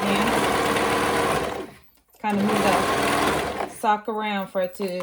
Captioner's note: machine whirring